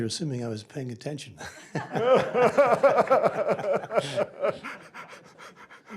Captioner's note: laughter